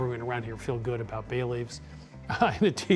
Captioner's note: laughs